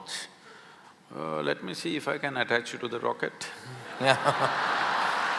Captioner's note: laughter/Applause